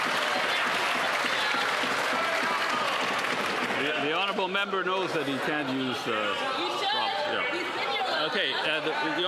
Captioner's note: some Applause